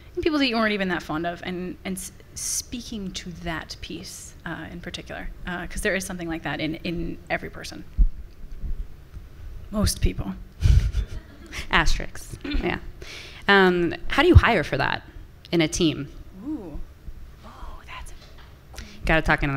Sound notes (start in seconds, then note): 10.8 and some audience members laughing